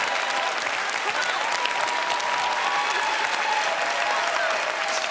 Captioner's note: applause